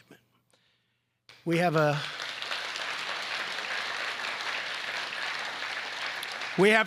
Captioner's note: applause